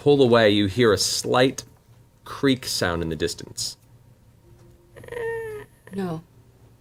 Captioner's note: creaking